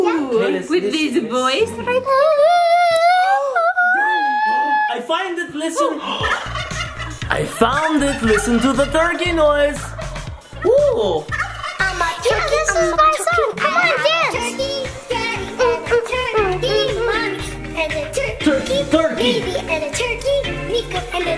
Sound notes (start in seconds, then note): 2.4 child singing; 3.9 gasps; 6.8 turkey sounds